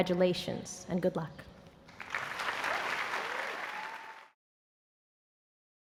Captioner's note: applause